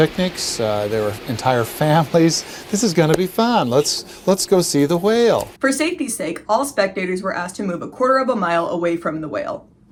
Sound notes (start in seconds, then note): 2.2 ssarcastic voice